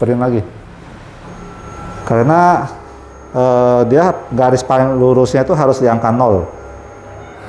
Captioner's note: printer machine noise